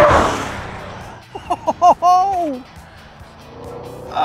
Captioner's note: laughs